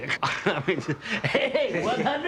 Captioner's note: laughs